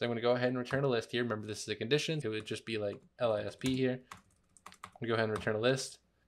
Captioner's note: lisp